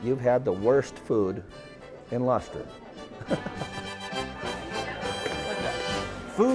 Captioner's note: laughs; lively music